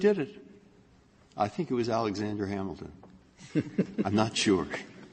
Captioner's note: laughter